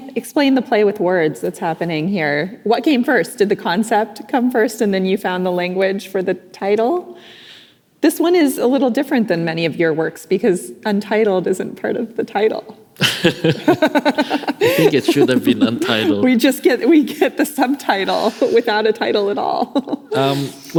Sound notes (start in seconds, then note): 13.0 laughing